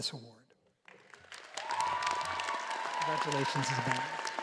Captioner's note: all applauding